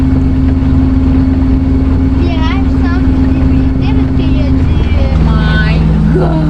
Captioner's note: sound of the screaming of the freighter